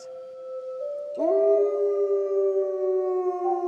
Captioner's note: howling